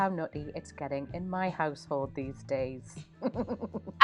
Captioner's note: laughs